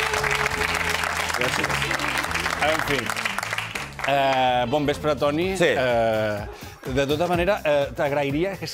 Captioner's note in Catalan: aplaudiments